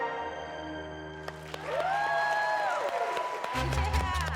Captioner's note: loud applause